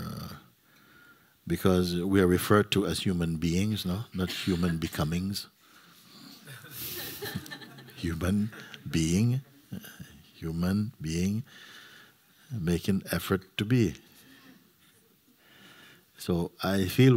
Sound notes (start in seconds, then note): 6.4 laughter